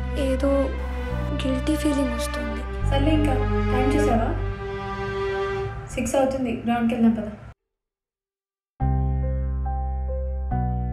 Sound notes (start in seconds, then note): none